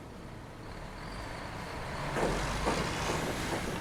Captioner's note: trucks rumbling